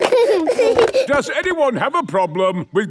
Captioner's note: giggling